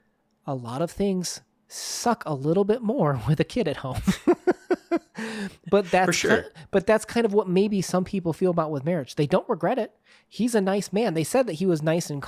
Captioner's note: laughs